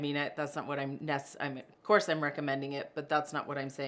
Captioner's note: stammers